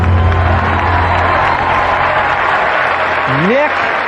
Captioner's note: cheering and applause